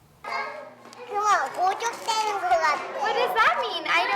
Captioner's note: speaks korean